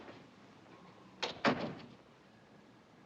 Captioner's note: door closes